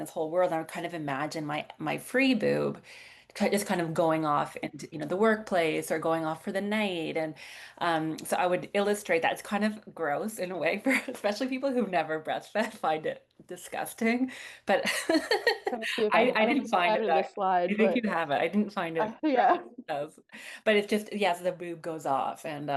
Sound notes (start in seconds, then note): 15.0 laughs